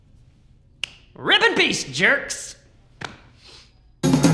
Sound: snaps fingers

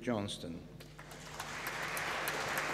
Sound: applause

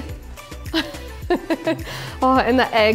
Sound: laughs

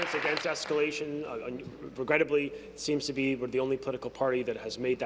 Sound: applause

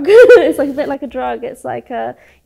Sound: laughs

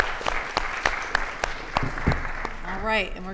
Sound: audience applauding

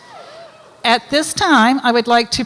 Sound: audience cheers

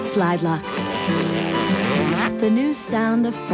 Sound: longer, drawn-out plastic zipper

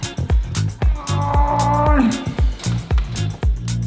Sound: strained groaning; upbeat music

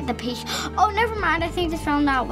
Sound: gasps

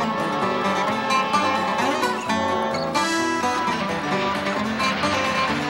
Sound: whistle blowing

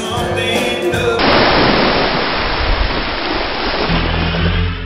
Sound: water splashing

